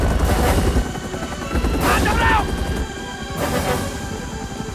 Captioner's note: Shouting In Korean